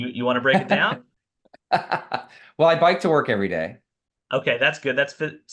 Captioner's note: laughs